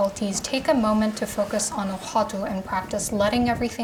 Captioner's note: speaking Korean